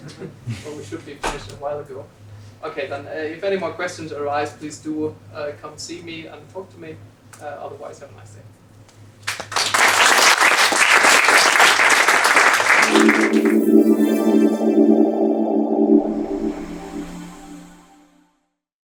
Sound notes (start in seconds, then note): 9.2 applause